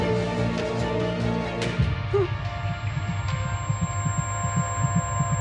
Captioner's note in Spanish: Gemido